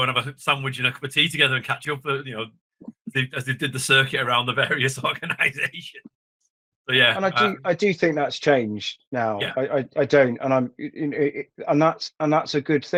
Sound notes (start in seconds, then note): 5.7 laughs